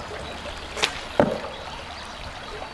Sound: arrow hits

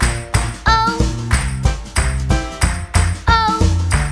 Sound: clap

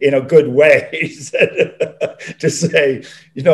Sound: John laughing

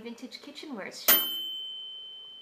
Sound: bell dinging

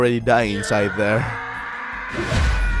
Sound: screaming sound effect while zooming on the guy’s face

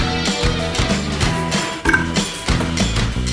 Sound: impressive belch

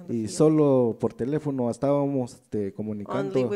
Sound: speaks in foreign language

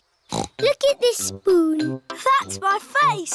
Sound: snorts

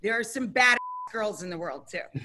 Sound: beeping sound

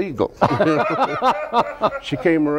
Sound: host and crew laugh

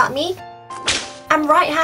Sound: whip!

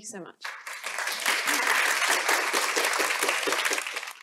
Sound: applause

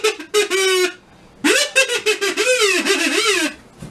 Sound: Kazoo laughs again; Kazoo laughs

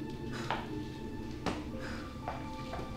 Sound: footsteps

